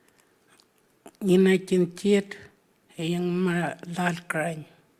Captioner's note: speaking Anmatyerr